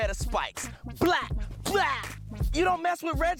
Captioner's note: exclaims